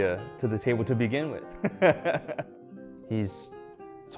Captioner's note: laughs